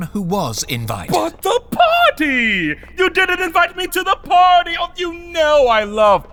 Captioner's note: sarcastic